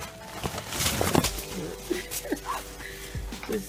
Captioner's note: laughing